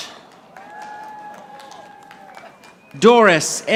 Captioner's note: audience applauding